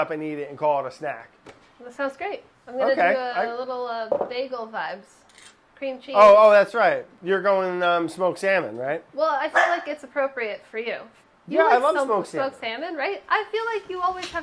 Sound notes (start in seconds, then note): 9.5 dog barking